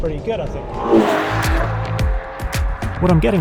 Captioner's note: car revs